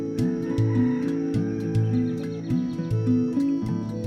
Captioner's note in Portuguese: canto de galo